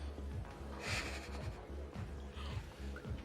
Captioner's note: Terkekeh